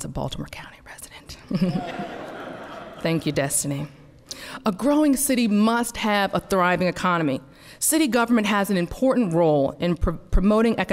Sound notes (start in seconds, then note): 1.5 laughter